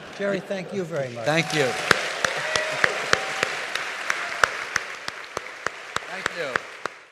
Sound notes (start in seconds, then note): 0.8 applause